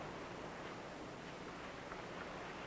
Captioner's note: none